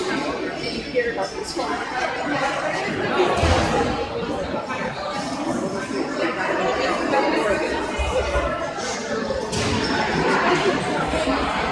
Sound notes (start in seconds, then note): 0.0 crowd chattering